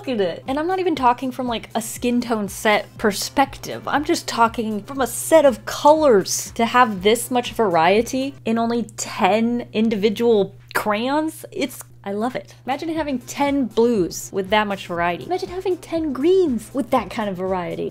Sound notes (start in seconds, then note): none